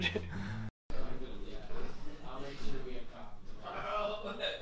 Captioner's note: background chatter